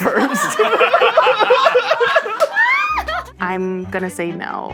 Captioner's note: all laughing